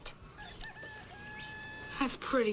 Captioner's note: rooster crowing